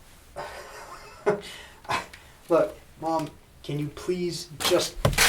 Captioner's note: laughs incredulously